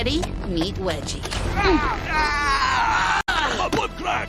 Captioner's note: grunts; screams